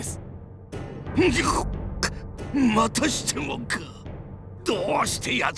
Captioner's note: choke on rage